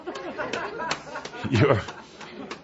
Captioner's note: laughter